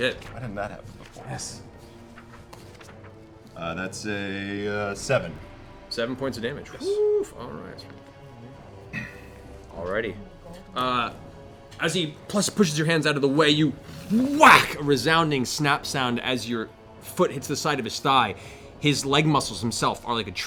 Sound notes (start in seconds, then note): 14.0 whack